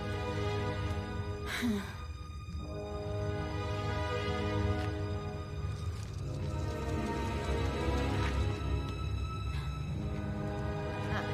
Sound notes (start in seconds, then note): 1.3 moans; 5.2 mysterious music